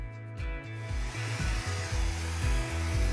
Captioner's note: wind blows; upbeat music